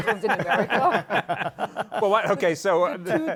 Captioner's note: laughter